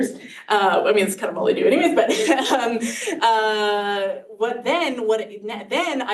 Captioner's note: chuckles